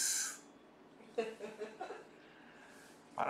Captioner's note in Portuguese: risos